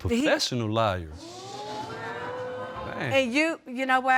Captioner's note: audience exclaiming